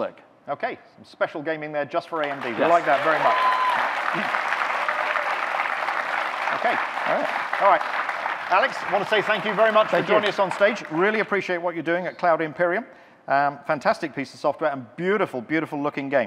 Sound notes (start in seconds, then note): 4.1 audience cheering